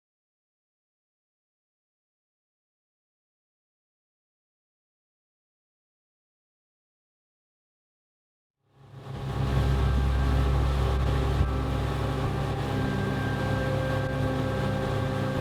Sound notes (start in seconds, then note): 9.2 motor whirring